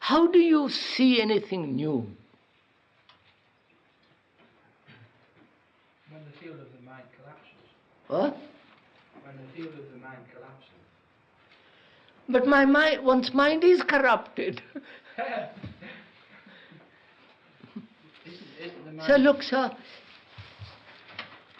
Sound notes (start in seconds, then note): 14.6 laughs